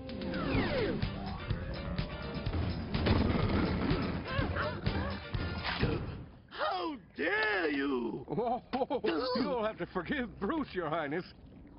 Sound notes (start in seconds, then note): 5.5 chomps; 8.2 laughs